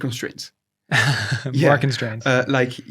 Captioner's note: laughs